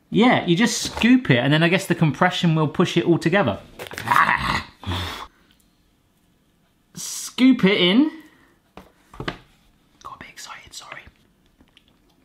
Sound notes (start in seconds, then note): 4.0 growls